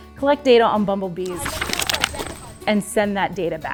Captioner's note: sounds of pages turning